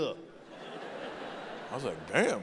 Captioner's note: audience laughing